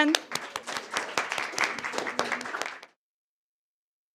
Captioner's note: applause